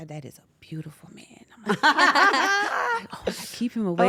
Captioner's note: laugh